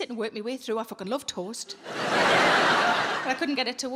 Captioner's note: audience laughing